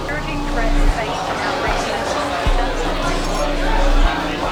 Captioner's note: people chattering